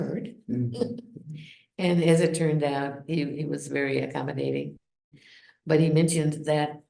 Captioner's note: chuckles